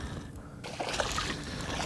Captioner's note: splash